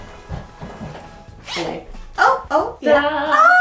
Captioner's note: zipper sliding